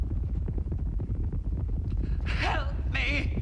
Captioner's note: hoofbeats